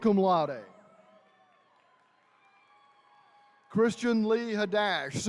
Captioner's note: attendees cheering